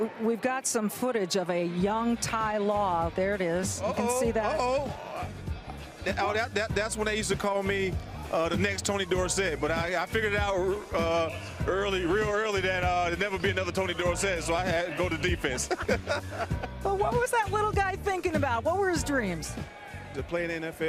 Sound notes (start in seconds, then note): 15.5 laughs